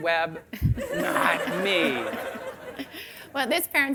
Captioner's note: audience laughing